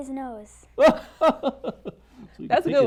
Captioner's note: laughs